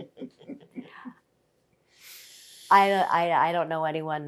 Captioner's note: laughing